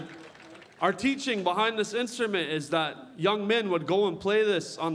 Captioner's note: cheering